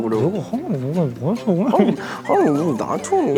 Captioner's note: grumbling grumbling